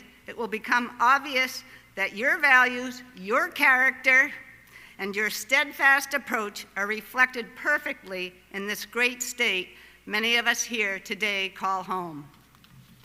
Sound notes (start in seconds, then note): none